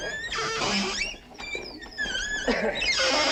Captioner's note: pulley creaking